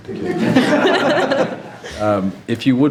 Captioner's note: members laughing